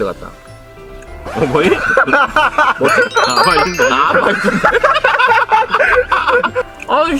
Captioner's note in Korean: 웃음